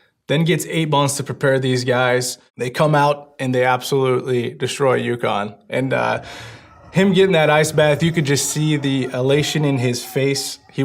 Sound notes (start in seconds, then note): 5.8 players shouting